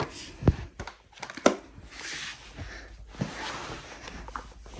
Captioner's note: items clinking